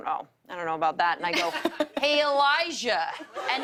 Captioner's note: laughter